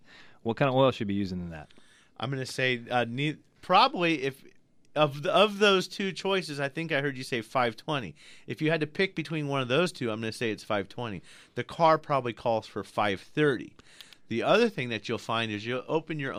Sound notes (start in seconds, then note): none